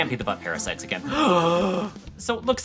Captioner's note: gasp